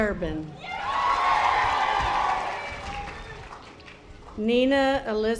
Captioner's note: audience applause